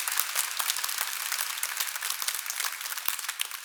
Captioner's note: cheers and applause